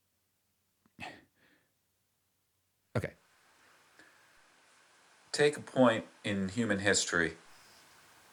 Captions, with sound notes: [Narrator exhales] Okay. Take a point in human history.